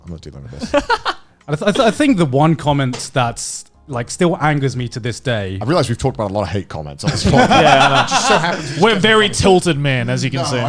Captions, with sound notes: I'm not dealing with this. (laughs) - I think the one comment that's like still angers me to this day. - I realized we've talked about a lot of hate comments. (laughing) - We're very tilted man, as you can see.